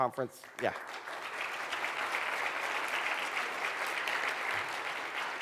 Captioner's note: applause